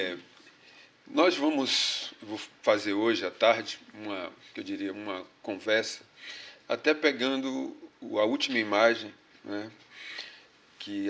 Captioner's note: speaking portuguese